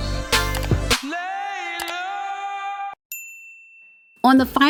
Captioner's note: mouse clicks; bell dinging